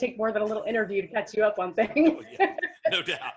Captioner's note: laughs